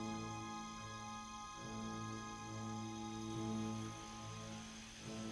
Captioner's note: rain pelting